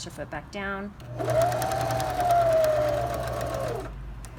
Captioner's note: sewing machine hums